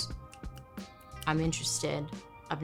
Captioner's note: fingers snapping